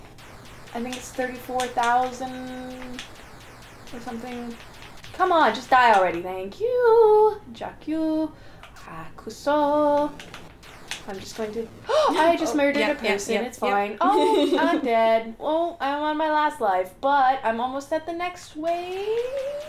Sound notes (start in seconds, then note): 7.4 ukranian; 8.9 japanese; 11.8 gasp